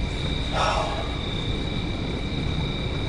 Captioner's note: sighing